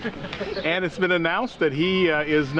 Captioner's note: laughter